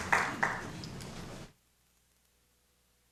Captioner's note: applause